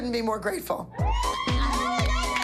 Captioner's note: cheering